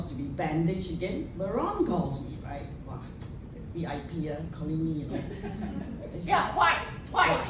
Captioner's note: wah